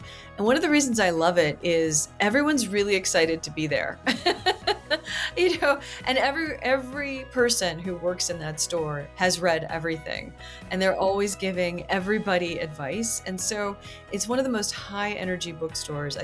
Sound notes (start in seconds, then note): 4.1 laughs